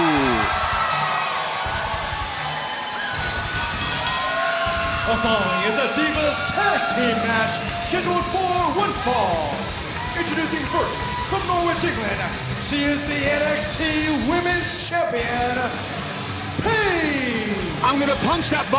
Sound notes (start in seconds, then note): 0.0 crowd cheering; 1.2 bell ringing